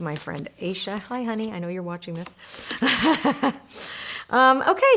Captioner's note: laughs